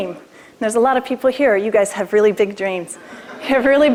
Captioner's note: laughter